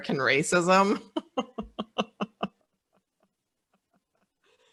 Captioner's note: laughing